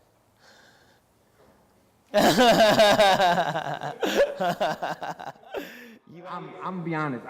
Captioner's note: laughs